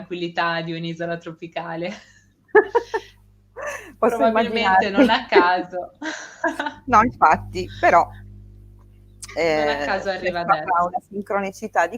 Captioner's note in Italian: risate